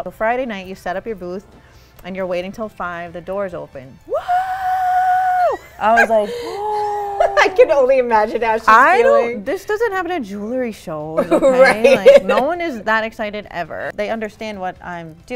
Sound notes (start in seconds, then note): 6.1 gasp